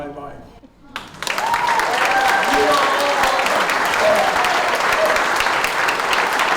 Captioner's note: audience cheering and applauding